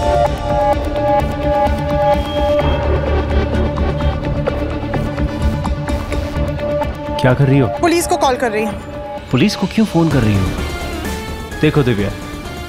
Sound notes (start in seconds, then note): 0.6 Mouthing